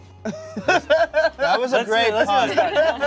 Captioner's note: laughs